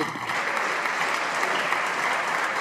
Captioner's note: applause